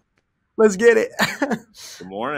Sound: laughs

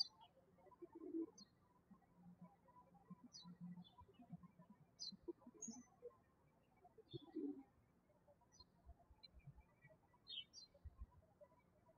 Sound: birds chirping

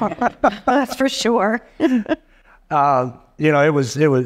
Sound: laughs

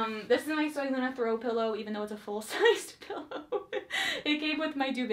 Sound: laughs

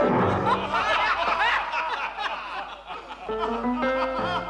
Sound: laughter increases

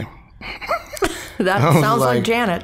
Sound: both chuckling

